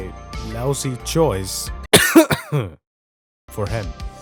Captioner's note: coughs